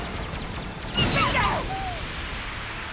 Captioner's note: Pokémon yelp